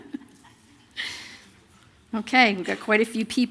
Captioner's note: laughter